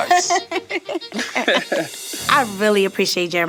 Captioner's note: laughing